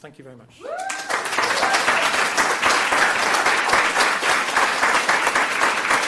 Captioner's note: loud cheering and applauding